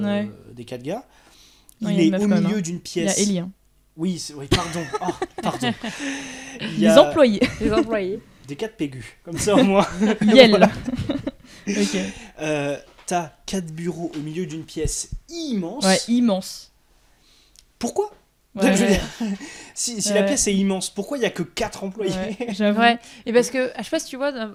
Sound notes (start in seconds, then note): 9.5 laughs in feminist